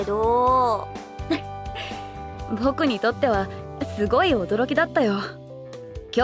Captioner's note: chuckles